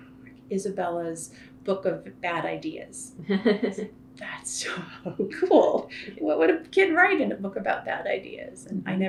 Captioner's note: laughter